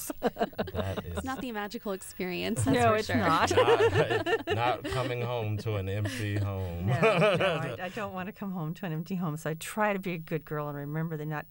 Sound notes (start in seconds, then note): 0.0 laughter; 3.2 laughter